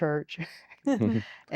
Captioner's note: giggling